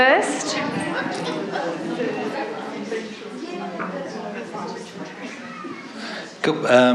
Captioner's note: audience chatter